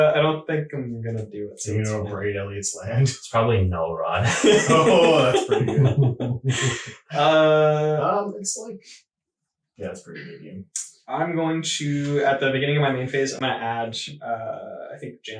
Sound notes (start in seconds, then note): 1.1 laughing